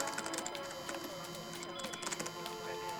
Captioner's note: water run